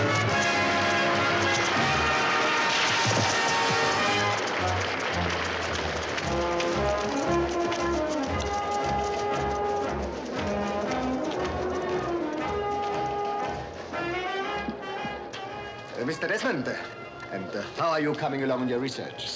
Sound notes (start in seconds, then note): 1.2 audience applauds